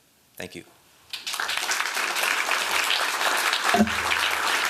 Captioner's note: applause